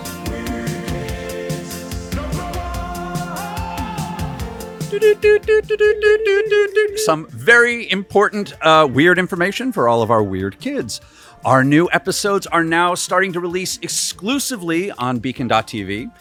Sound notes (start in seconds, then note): 4.8 morse Code noises